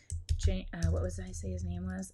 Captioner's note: keyboard keys clicking